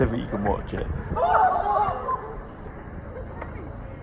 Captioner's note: shouting